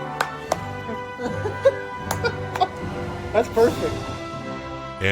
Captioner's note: laughter